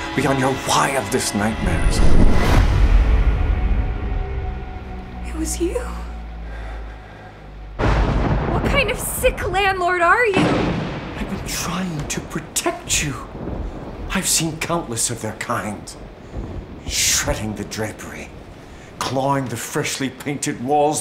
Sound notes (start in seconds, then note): 2.9 dramatic music; 7.9 thunder cracking; 10.7 thunder cracking